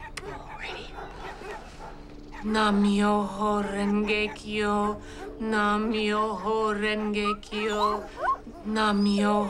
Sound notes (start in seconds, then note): 2.2 chanting; 8.9 chanting